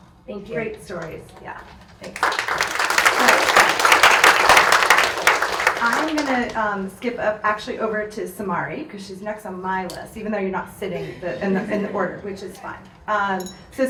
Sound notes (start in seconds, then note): 2.0 audience applauds